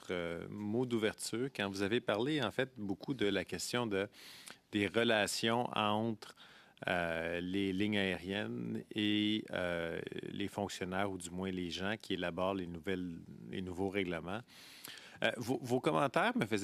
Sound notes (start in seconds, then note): 0.8 speaking French